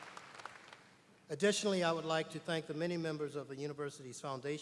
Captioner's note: applause